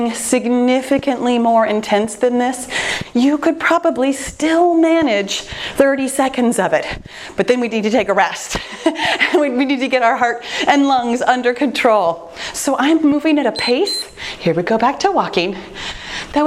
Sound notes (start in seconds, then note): 9.1 laughing; 13.5 timer beeps